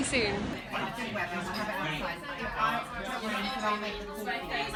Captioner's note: people chattering